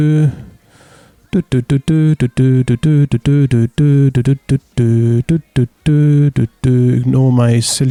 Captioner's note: doot doo dooting ensues